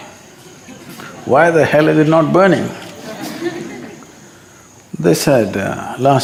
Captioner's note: laughter